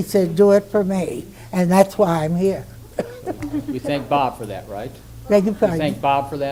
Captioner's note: laughs